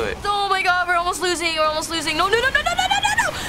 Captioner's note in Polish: none